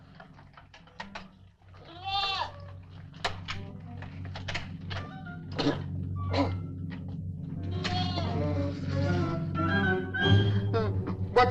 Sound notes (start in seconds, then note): 1.8 goat bleating; 6.3 Papers coughing; 8.6 suspenseful music